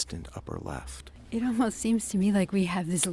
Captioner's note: voiceover